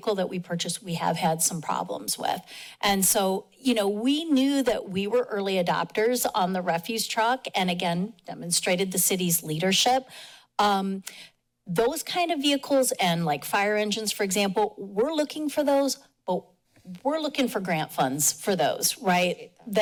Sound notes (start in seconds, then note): none